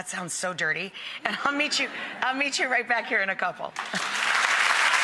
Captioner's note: laughs; audience applauds